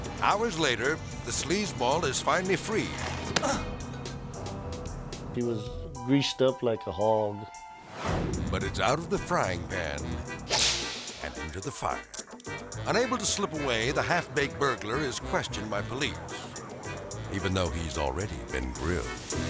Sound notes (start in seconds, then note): 3.3 man groaning; 4.8 suspicious music; 7.8 air swoosh; 10.4 air swoosh; 12.6 melodic music; 18.5 dramatic music; 18.7 grill sizzling